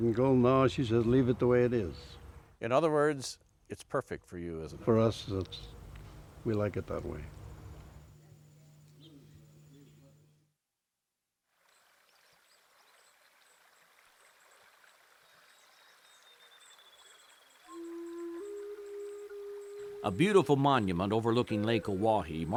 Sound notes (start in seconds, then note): 11.6 water splashing; 16.2 bird twittering; 17.6 calm flute music